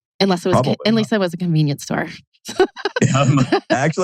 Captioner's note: laughs